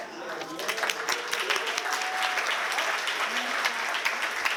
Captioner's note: applause